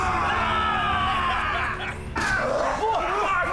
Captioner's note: laughing; all grunting, shouting